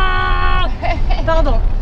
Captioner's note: laughs